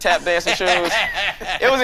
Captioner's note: laughing